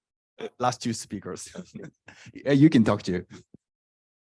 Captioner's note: laughs